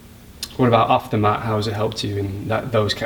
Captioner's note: voiceover